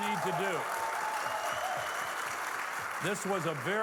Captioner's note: audience clapping